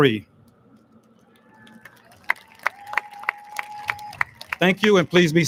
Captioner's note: audience lauds